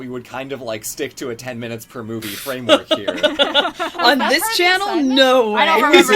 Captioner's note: laughs